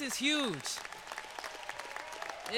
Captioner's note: applause